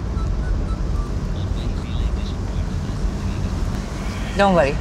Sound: radio playing

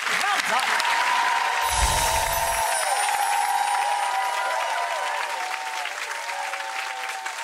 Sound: audience cheers; bells chime

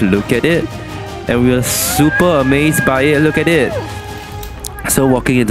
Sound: fire Engine noises

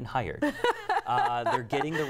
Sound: laughter

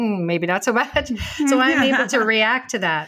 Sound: chuckles

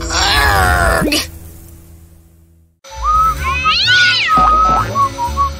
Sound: evil laughter

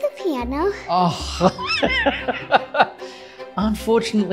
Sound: laughing

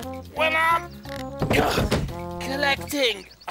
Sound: gasps

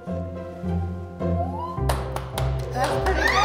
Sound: gentle music; squealing; hands clapping; squealing

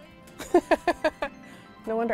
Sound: laughs

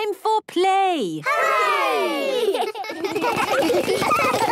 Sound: laughter

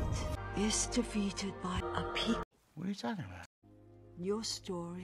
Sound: none

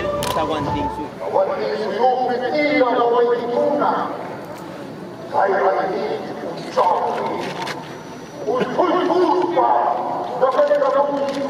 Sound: The Inca king speaks

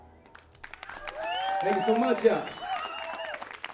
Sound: applause

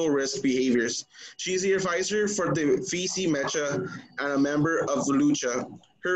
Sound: foreign language

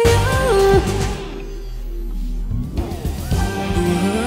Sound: audience cheering

